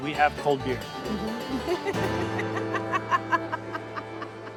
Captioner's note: laughs